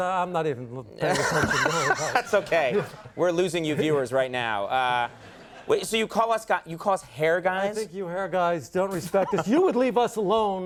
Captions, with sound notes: Of course it is. I'm not even paying attention. (Conan laughs) That's okay. We're losing you viewers right now. Wait, so you call us hair guys? I think you hair guys don't respect us. (Conan laughs)